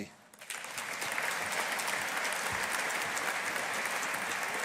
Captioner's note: audience applauding